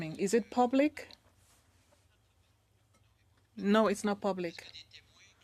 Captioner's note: speaking French